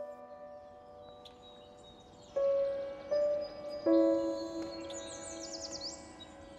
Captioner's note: birds chirping